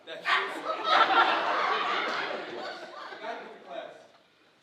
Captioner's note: laughing audience drowns out speaker